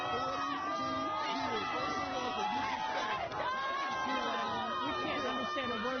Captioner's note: yelling